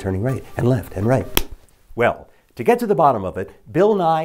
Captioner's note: slap